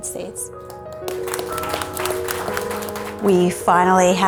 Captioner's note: clapping